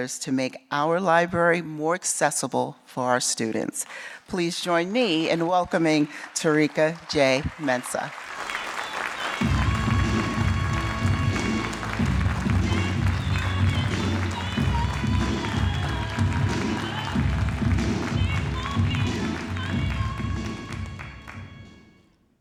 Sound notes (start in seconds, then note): 8.5 audience clapping; 8.5 upbeat music; 16.1 audience clapping